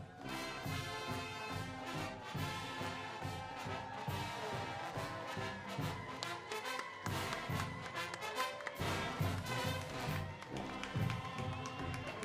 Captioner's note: cheers and applause